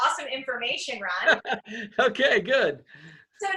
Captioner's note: laughs